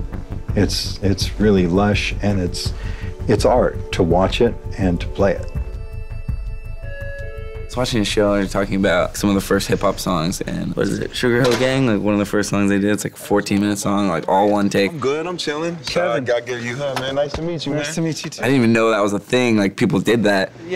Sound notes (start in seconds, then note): 6.7 door bell sound